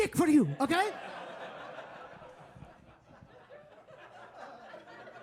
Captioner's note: audience laughing